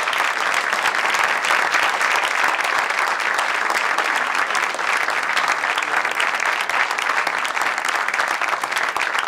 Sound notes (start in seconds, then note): 5.6 applause